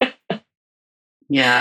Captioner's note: laughs